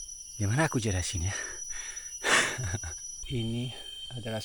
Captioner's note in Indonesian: tertawa